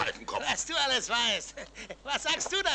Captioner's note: chuckles